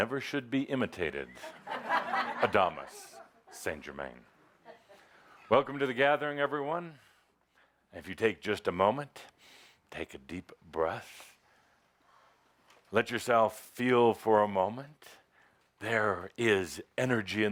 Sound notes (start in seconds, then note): 4.6 laughter